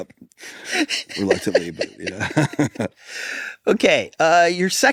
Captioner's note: pair laughs